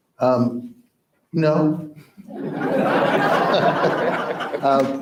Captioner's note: crowd laughs